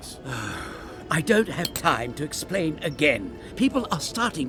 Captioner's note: sighs